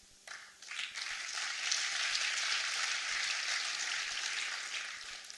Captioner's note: applause